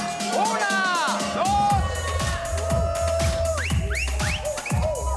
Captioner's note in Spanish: Silbidos